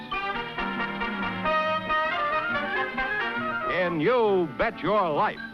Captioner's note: none